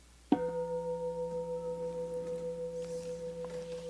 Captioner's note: bell clanging